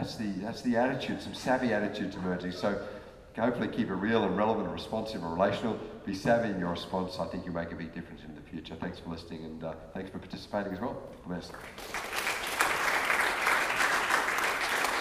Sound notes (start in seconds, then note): 11.5 applause